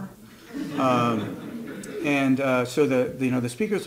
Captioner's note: audience laughs